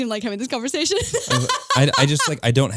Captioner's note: laughing